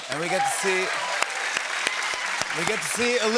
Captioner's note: applause